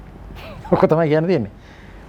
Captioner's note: sarcasm